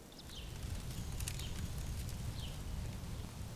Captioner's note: birds singing